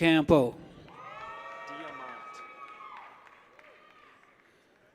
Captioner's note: people cheer